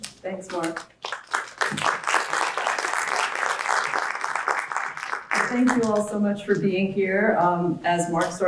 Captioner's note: applause